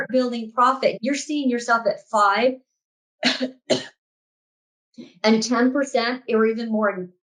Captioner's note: coughs